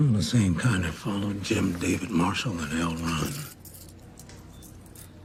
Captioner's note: coins jingle